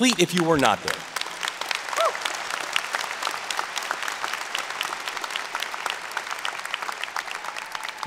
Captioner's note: applause and Cheering